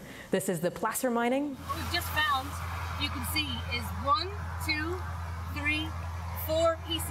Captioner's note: none